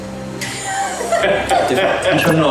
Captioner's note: laughs